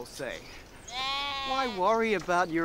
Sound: sheep bleats

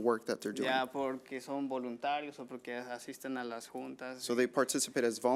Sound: man speaking foreign language

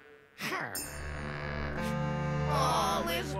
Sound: frustrated growl

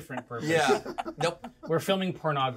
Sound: laughs

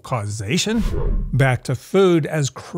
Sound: ghostly whooshing

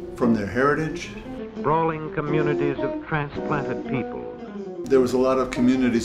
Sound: television playing, "sprawling communities of transplanted people"

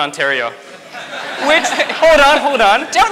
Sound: audience laughs

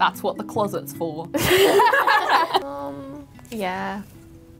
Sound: laughing

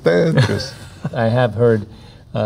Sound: laughing

